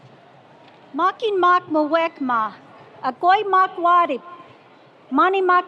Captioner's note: speaking foreign language